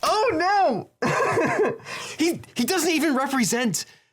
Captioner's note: laughs